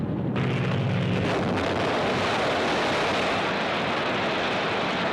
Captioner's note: plane exploding